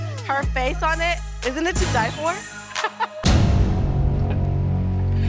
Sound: laughs

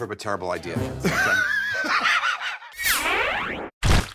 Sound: laughter

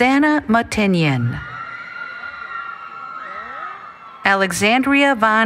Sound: cheering

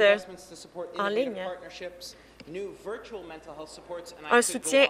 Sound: speaking French

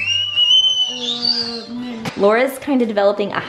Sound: screams

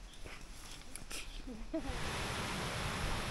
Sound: laughs

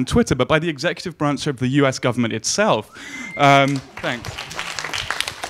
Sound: audience clapping

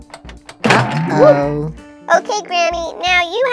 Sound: button clicking; chair boinks

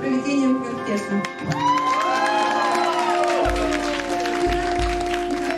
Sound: people applauding

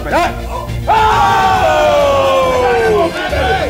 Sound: guests cheer

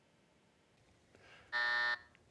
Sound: buzzer

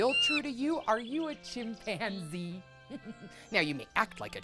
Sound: laughs

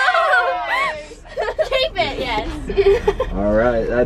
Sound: girls chattering; laughing

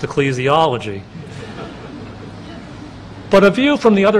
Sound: laughter

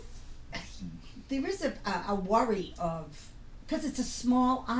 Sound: voiceover

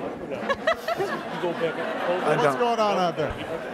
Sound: laughing

